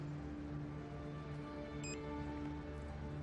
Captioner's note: phone beeps